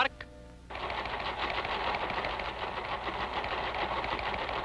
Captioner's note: ticker tape clacking